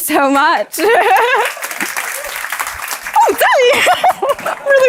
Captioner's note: crowd applauds